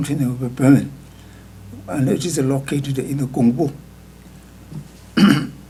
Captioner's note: speaking tibetan